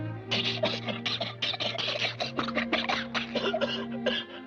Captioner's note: steam hisses; both coughing; manager coughing